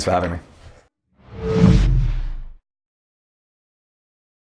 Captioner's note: swooshing